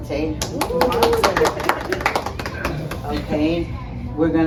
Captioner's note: cheering and clapping